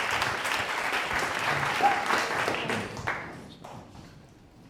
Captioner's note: audience clapping